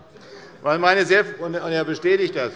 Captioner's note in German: Heiterkeit bei der SPD